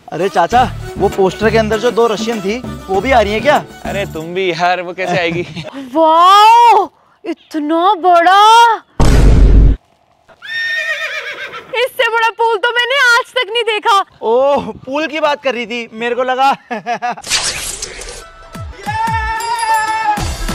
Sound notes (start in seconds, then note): 16.7 laughing